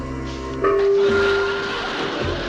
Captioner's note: banging